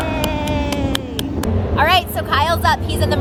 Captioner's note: cheering